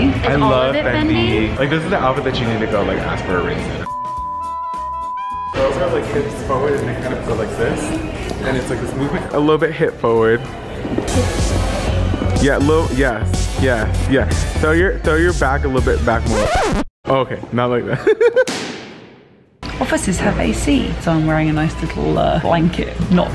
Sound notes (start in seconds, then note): 3.8 beeping; 11.0 dance music; 16.2 record scratching; 18.3 laughs; 18.5 gavel banging